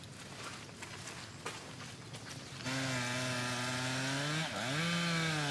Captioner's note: chainsaw buzzing